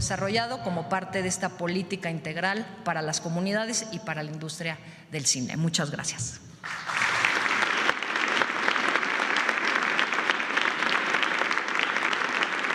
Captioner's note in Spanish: aplausos